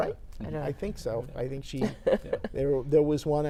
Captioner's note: laughs